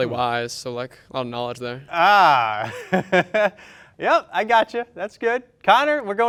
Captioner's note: laughs